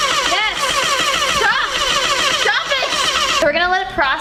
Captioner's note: machine whirring